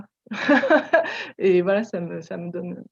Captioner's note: laugh